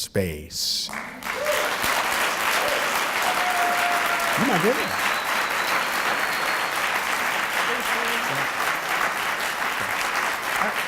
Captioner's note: applause